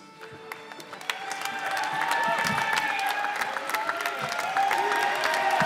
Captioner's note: cheers and applause